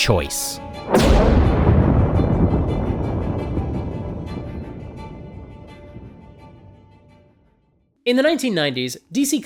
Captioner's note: thunder